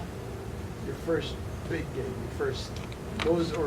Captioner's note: none